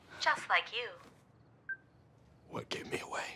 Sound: cellphone beeps

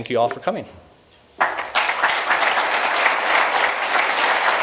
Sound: applause

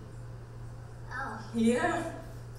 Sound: voiceover

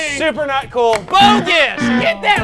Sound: buzzer

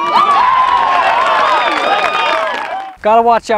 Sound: applause

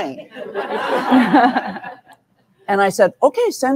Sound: audience laughing

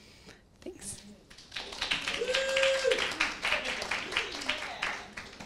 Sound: audience applauds

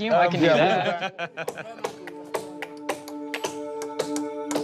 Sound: laughter

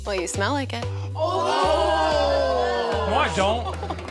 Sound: jeers

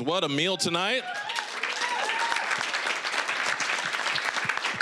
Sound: applause, cheering; applause

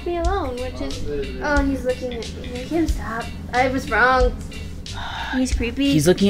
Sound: sigh

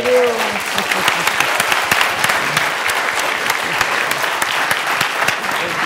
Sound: applause

